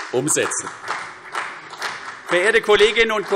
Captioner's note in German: Beifall CDU und vereinzelt BÜNDNIS 90/DIE GRÜNEN